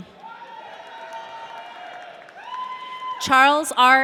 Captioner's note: audience cheering